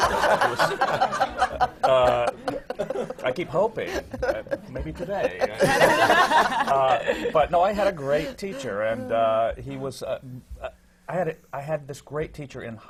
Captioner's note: laughter